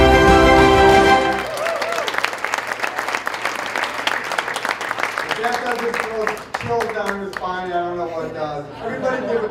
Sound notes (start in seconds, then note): 0.2 cheering and applauding